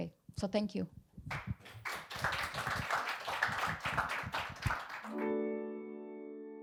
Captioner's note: audience applauding; somber piano music